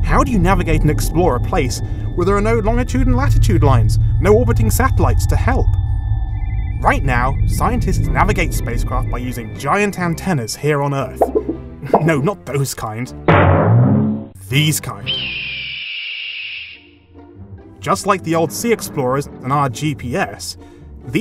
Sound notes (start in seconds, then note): 9.1 wobble sounds; 11.1 laughs; 15.0 distant hawk screech